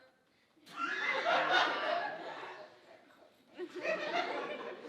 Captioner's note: audience laughing